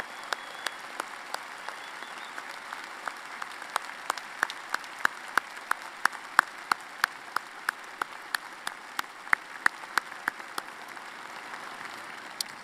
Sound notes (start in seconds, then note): 0.0 applause